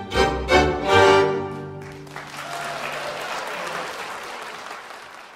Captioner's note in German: Applaus